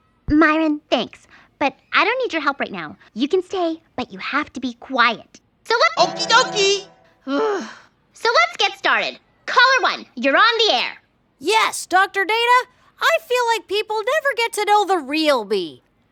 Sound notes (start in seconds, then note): 6.2 groans